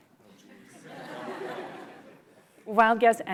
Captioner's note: laughter